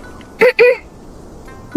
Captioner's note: cough cough